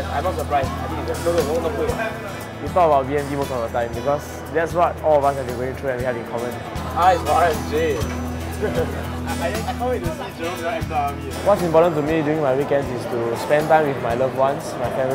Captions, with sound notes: I'm not surprised- No! No! It's still not cooked. We talk about BMT most of the time. Because that's what all of us have been going through and we have in common. R is for RMJ... (laughter) I can't wait to see Zhi Rong act tough in front of me. What's important to me during my weekends is spend time with my loved ones,